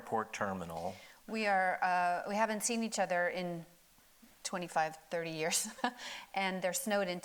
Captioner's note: chuckles